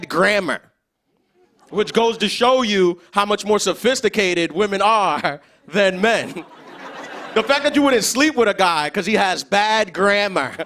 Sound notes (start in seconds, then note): 6.1 laughter; 9.6 laughter